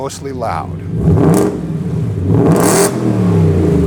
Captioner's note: car revving